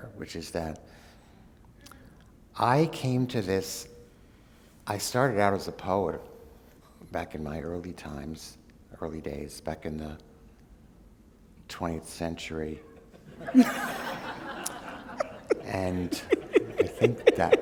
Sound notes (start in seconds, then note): 14.7 laughter